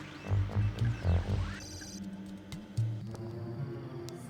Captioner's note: computer beeps